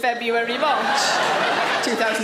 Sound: audience laughs

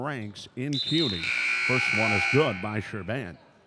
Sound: buzzer dings

